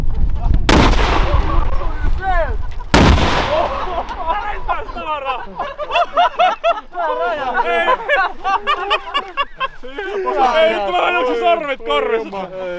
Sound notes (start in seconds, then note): 3.4 excited laughing